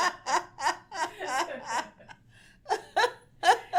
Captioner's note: laughs